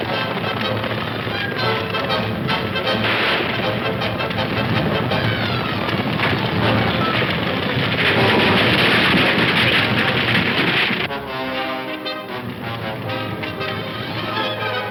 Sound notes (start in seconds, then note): 7.4 wagon crashing; 11.0 suspenseful orchestral music